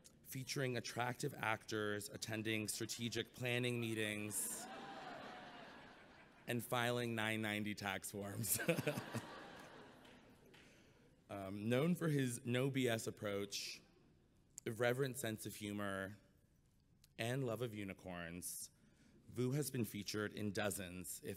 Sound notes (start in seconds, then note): 8.5 chuckles